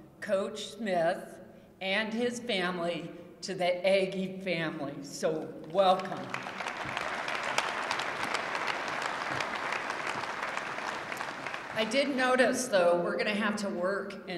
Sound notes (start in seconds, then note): 5.6 applause